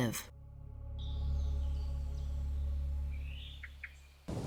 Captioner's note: birds chirping